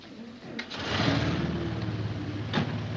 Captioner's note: car engine starts; car door closes